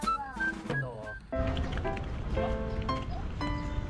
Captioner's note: light steps; light steps as well